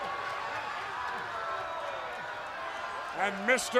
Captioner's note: crowd cheering